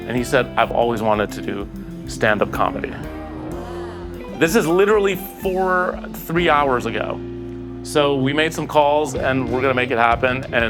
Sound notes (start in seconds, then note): 2.2 crowd softly exclaims